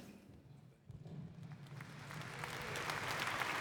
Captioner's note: applause